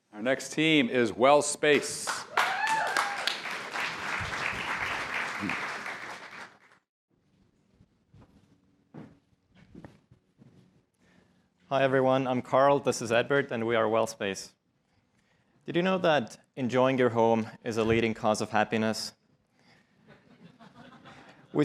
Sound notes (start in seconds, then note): 1.7 applause